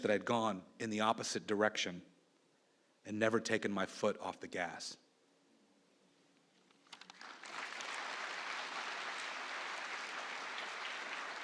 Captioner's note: applause